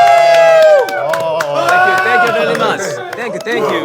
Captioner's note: women staff are screaming